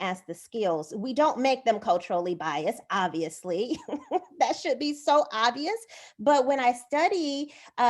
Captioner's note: laughter